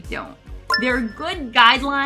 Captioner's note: retro gaming beep sound